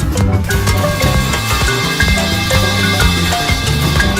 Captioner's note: 𝑻𝒉𝒆 𝒔𝒐𝒖𝒏𝒅 𝒐𝒇 𝒇𝒓𝒆𝒅𝒅𝒚 𝒃𝒂𝒏𝒈𝒊𝒏𝒈 𝒕𝒐𝒚 𝒄𝒉𝒊𝒌𝒂